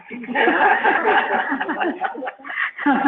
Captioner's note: laughing